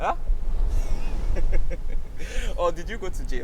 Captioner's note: laughing